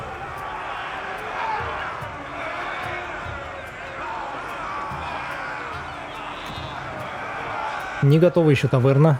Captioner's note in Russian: крик